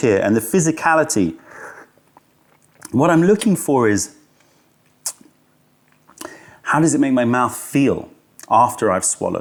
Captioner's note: sips tea